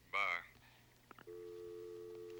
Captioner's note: line disconnects